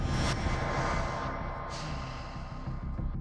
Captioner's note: exhales